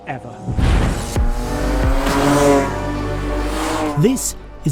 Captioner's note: engine roaring; cheerful music